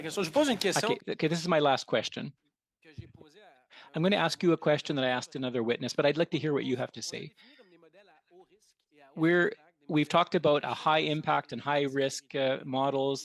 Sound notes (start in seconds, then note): 9.5 speaking French